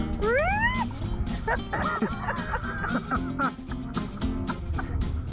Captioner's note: laughter